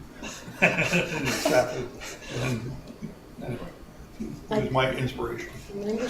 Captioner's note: laughter